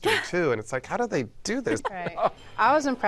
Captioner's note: laughs